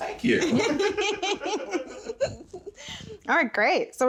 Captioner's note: everyone laughing